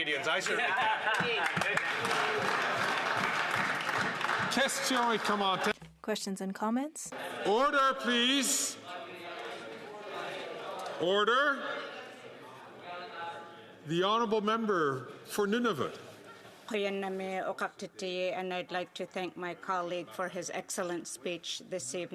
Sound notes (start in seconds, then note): 4.5 some Applause